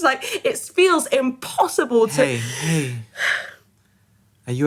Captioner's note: exasperated; deep breath